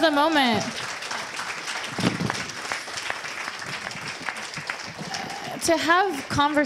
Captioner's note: audience cheers and applause